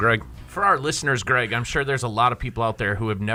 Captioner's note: voiceover